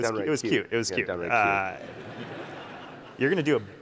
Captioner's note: audience laughing